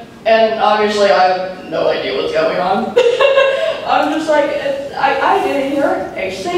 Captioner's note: laughs